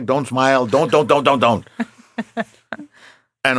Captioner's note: laughing